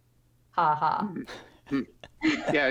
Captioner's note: laughs